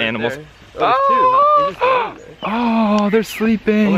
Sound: gasps

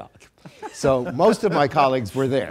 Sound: people laughing

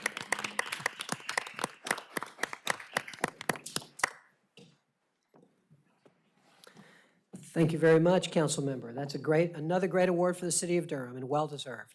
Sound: applause

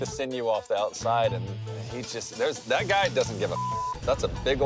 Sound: beep

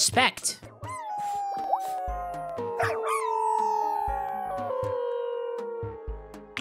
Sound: other dogs howling in eerie unison; Celsius howling

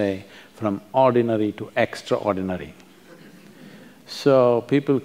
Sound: few laugh

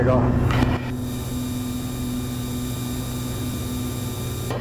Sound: plane engine whirring

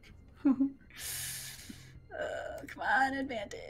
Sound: giggles and inhales sharply

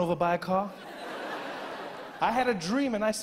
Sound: audience laughing

